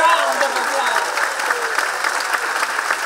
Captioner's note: applause